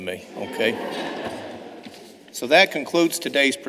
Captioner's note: laughter